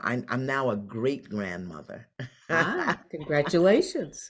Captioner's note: laughs